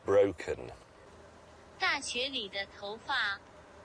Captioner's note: translator app speaks chinese